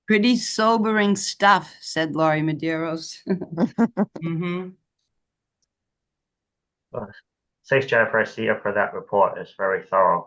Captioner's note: off mic